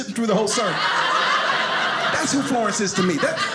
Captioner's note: audience laughing